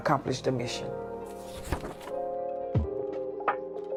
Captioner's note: paper rustling; bright music